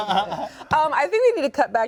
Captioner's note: laughs